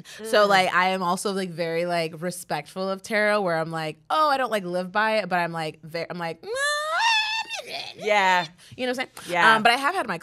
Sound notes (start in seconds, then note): 6.8 squeals